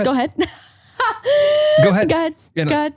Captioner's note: laughing